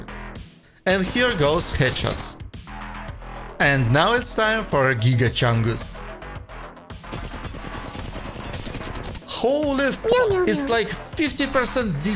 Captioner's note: meow mew mew